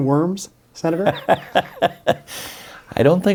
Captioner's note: laughs